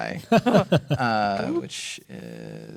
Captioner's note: laughing